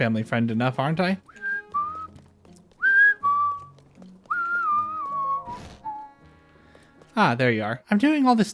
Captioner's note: whistling